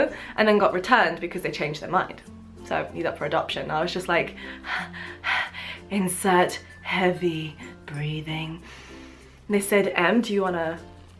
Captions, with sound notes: and then got returned because they changed their mind. So she's up for adoption. I was just like... [heavy breathing] Insert heavy breathing! They said, "Em, do you wanna...